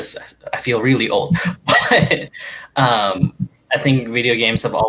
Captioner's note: laughing